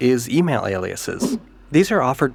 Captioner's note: whoosh